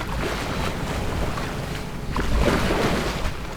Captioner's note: waves splashing